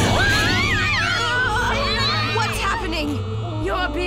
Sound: shrieks

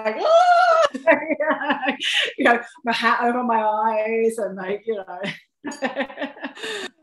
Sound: laughter

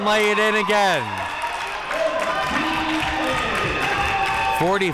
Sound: spectators cheering and applauding

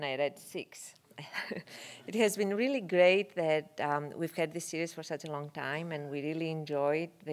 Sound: laugh

